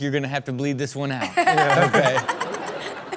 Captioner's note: crowd and Chanel laugh